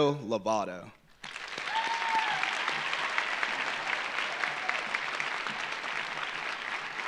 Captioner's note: audience applauding; audience cheering